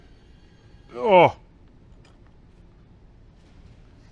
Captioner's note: grunts